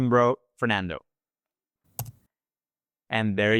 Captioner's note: click